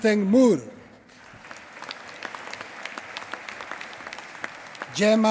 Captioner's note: applause